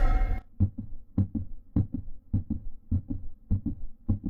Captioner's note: rhythmic beating; dramatic music